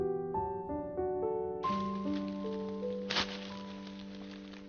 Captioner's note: leaves rustling